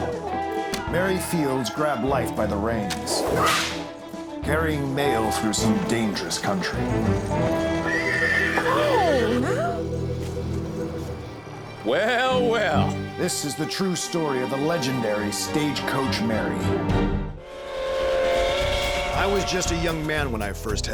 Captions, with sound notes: [CROWD EXCLAIMS] MARY FIELDS GRABBED LIFE BY THE REINS. CARRYING MAIL THROUGH SOME DANGEROUS COUNTRY. [HORSE WINNIES] WHOA, NOW. WELL, WELL. BAT MASTERSON, V/O: THIS IS THE TRUE STORY OF THE LEGENDARY STAGECOACH MARY. [TRAIN WHISTLE]